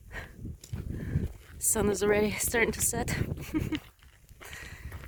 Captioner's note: laughs